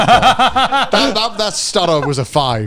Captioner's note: laughs